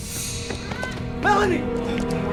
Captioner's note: Melanie grunts